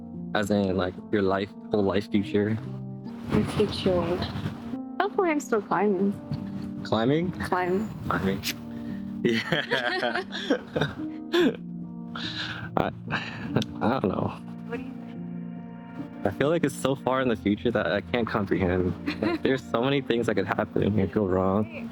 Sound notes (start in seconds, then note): 11.8 laughs